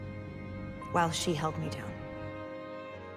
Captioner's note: voiceover